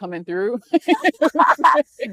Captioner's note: laughing